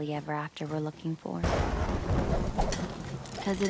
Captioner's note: thunder clap